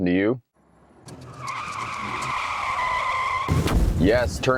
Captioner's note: wheels screeching; glass shattering